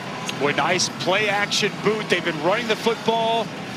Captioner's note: indistinct chatters from TV